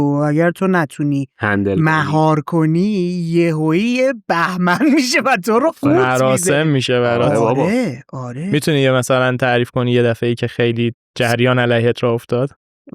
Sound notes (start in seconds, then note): 8.6 laughs